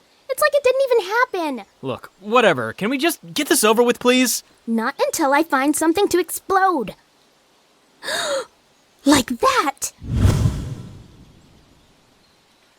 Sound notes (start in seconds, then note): 7.9 gasps